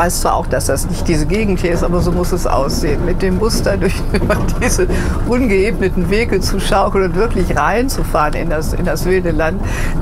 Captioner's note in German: Lachen